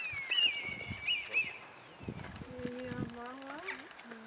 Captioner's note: red kite noises